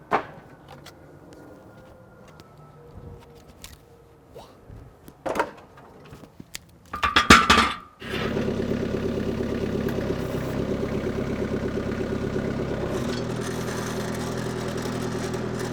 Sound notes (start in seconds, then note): 0.1 wood clunking; 5.3 wood clunking; 8.0 engine roaring